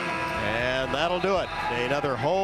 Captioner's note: buzzer sounds